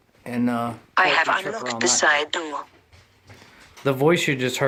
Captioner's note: robotic Voice